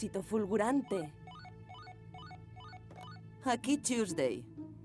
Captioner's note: phone ringing